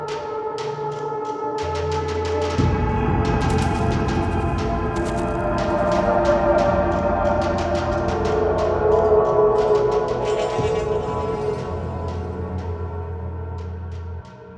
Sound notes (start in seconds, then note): 3.4 shoes crunch; 6.7 chilling music continuing; 10.6 metal crowbar dragging